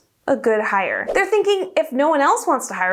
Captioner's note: air whooshing